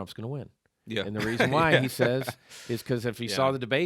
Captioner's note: laughing